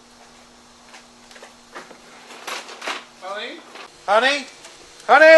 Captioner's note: screen door opens; sliding door